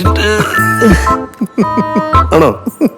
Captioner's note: laughing